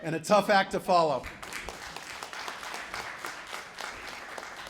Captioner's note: applause